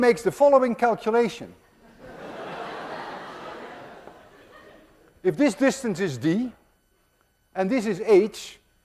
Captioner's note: class laughs